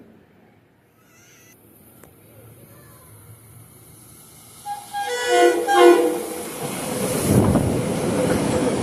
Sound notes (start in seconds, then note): 4.6 horn HORRRRRRRN HORN